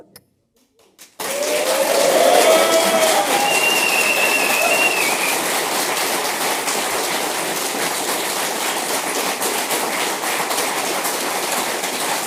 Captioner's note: applause and some wooping